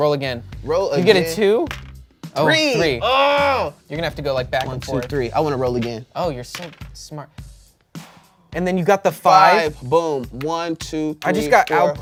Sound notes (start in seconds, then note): 2.4 groans